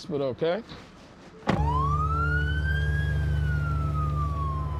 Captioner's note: siren wailing